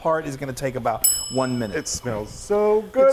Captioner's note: bell dings